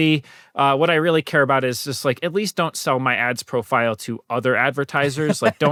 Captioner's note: laughter